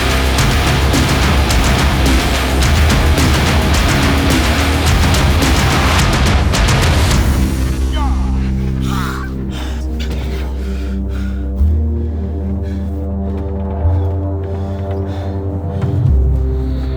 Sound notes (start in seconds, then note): 10.0 fighter panting; 10.0 ominous music